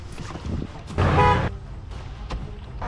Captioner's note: driver Honks